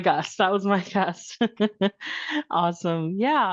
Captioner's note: laughs